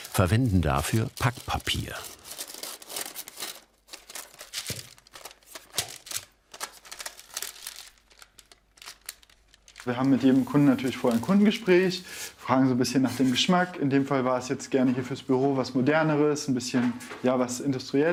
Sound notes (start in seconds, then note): 2.2 rustling